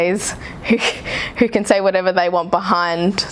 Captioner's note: laughs